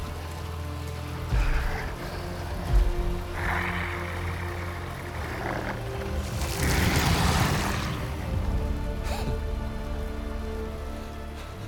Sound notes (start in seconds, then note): 8.9 laugh